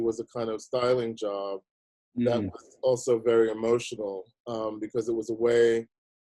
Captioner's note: none